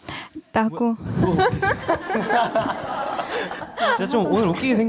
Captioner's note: contagious laughter